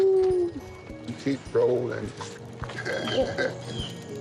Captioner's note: chuckles